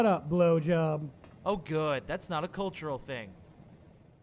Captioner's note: Sarcastic